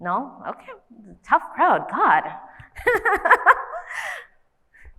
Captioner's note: laughs